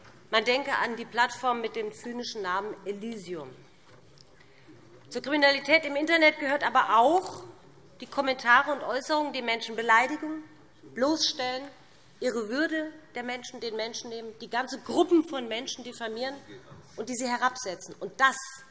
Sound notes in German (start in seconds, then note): none